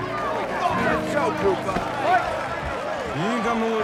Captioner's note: crowd jeering